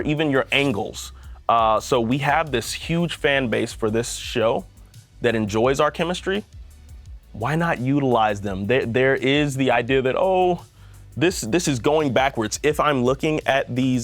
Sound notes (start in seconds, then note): none